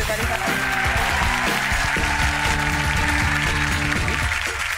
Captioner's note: audience applause